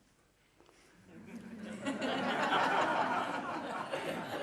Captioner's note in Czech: smích